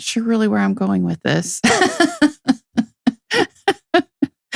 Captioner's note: laughing